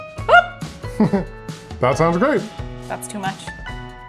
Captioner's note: chuckles